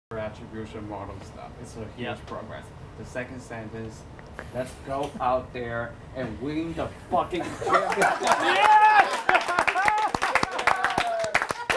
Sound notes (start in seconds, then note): 7.6 group cheering